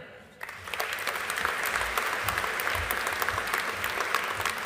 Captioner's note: audience applauding